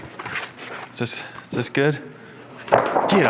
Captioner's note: plastic flopping